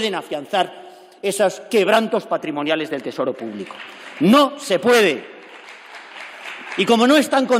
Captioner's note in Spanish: Aplausos